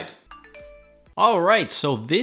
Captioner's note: notification Sound